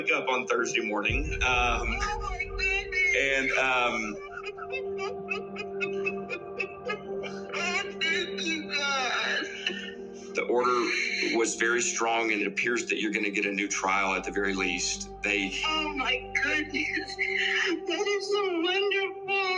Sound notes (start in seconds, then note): 3.8 crying